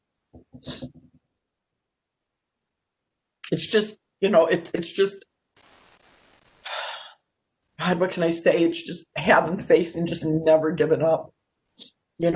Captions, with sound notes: It's just, you know, it's just, (sighs) God, what can I say, it's just having faith and just never giving up.